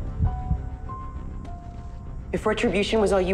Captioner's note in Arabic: دقات قلب; دقات القلب